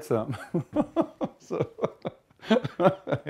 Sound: laughter

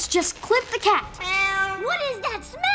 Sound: meowing

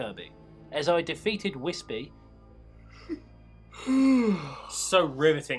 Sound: yawn

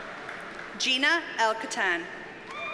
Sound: audience cheers and applauds

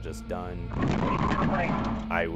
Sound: tires squeal

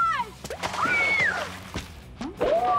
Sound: screaming

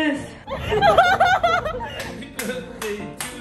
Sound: laughing; clapping

